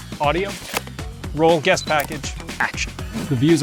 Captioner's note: camera chirps and clicks